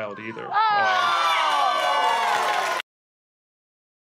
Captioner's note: audience booing